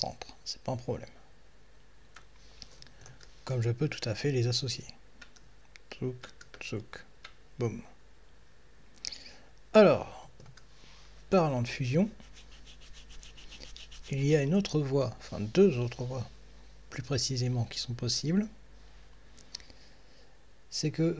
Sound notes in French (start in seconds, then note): 11.9 grattement de barbe